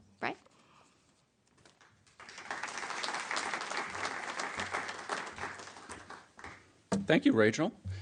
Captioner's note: applause